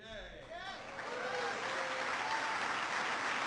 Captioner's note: applause